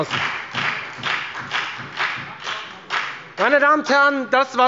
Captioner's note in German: Beifall bei der FDP und SPD